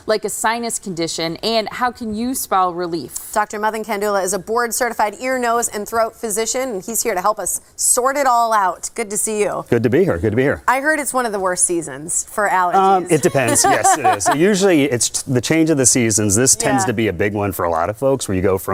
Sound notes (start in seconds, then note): 13.1 laughing